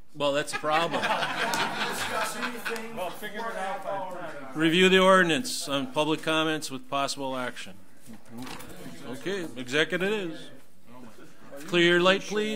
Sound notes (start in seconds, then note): 0.3 group laughs; 0.9 overlapping chattering